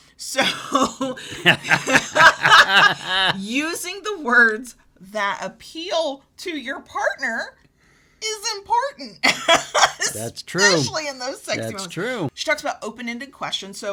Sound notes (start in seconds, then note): 0.4 both laugh; 9.4 laughs